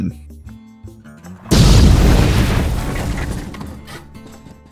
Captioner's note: kaboom